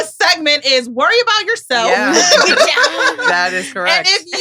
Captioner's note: laughs